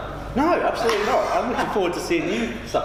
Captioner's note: laughing